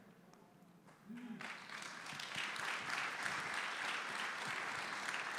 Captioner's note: audience applauding